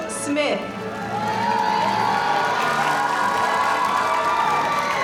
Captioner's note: audience applauding